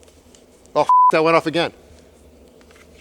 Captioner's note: beep